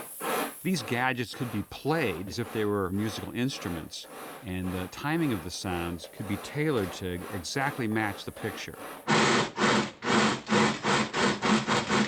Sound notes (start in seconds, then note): 8.9 chuffing